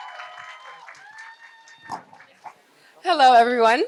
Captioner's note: applause